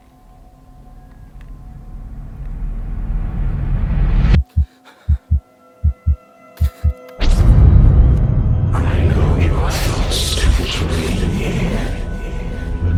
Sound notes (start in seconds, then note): 5.8 heartbeat thudding